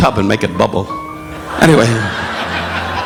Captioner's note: audience laughing